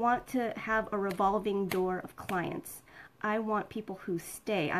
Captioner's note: snapping